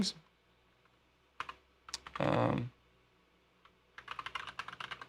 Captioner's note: keyboard clicks